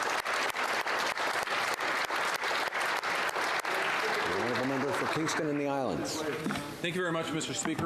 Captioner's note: applause